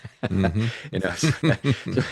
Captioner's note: both Laughing